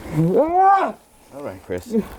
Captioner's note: screams